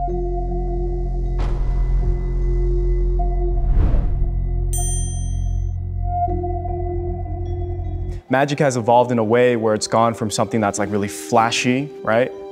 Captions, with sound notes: (mysterious music) (bell dings) - Magic has evolved in a way where it's gone from something that's like really flashy, right?